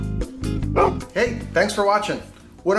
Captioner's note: mellow music; dog barking